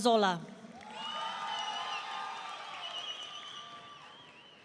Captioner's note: audience cheering